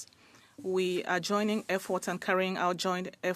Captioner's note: speaking French